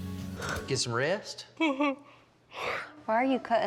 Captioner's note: yawning